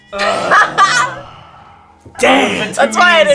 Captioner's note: laughing